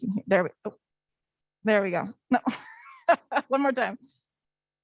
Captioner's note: laughs